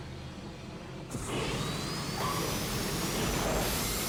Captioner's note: turbine sound